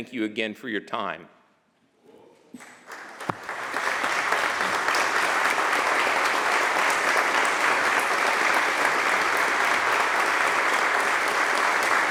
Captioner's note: applause